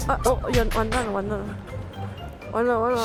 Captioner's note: the engine stalled